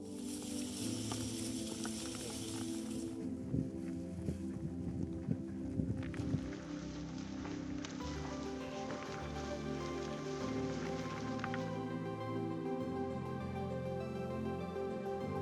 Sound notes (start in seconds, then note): 1.3 sheep hooves stomping; 7.6 grass rustling